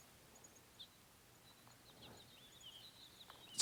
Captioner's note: birds chirping